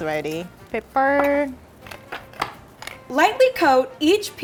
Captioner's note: cracking pepper